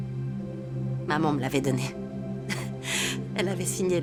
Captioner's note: chuckling